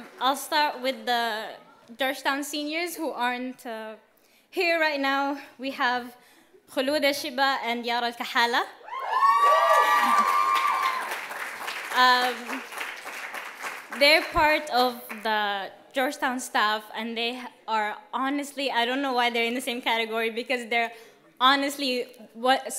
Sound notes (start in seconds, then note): 8.8 cheers and applause